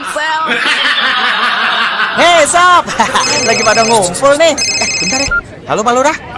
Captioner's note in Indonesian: tertawa